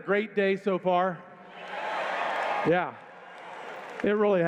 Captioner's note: cheers